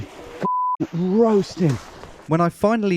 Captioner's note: beeps